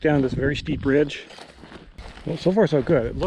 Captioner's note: footsteps thumping